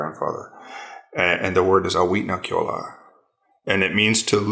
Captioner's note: speaks foreign language